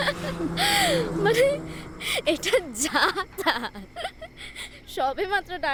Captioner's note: laughter